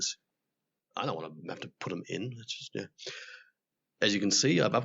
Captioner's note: quiet/Annoyed voice